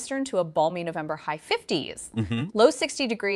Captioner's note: mhmm